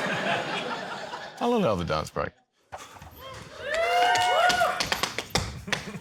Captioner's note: laughter; audience cheers